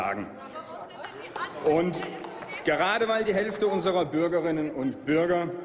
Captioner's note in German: Applaus